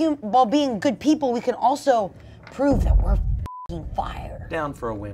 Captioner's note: beep